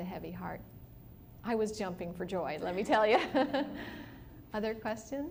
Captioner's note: laughter